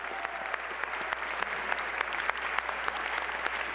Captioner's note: applause